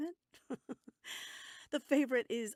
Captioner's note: laughs